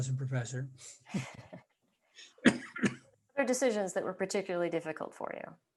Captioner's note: laughter